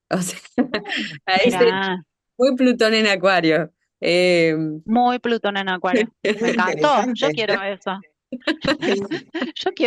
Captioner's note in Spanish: risas